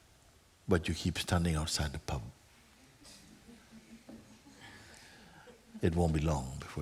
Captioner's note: laughter